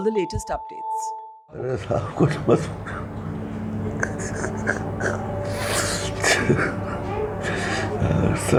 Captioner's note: crying